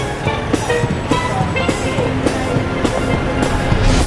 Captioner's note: louder street noise, sirens, street music